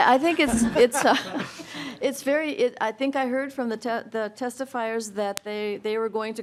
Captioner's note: laughing